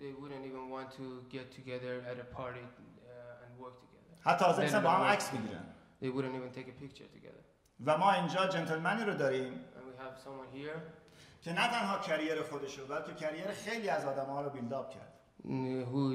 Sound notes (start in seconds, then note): 4.3 speaking in farsi; 7.8 speaking in farsi; 11.5 speaking in farsi